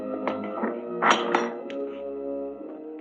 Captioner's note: unlatching door